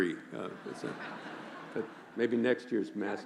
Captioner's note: laughing